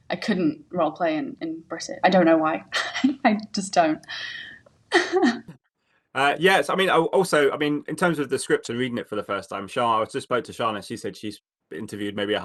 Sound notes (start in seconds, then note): 4.9 laughs